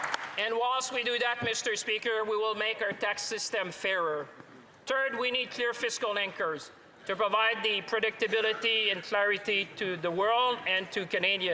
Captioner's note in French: applaudissements